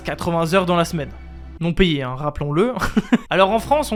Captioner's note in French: Rire